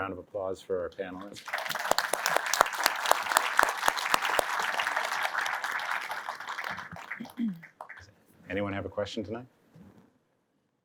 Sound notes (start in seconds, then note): 1.2 applause